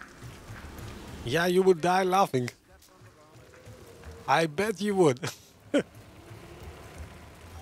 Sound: laughs

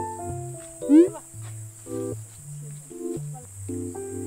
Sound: laughing

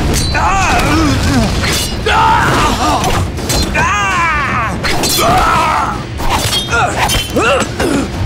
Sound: grunting; grunting

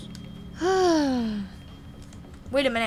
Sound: Sabrina sighs

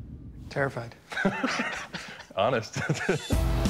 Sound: both laugh

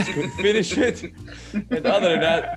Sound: laugh

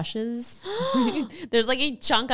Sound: laughs

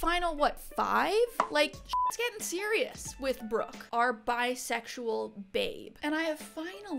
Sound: beep

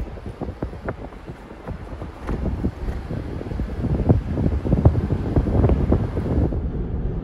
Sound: car accelerating

